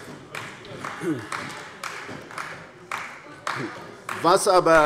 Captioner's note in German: Beifall bei Abgeordneten der CDU